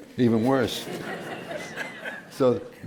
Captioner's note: laughter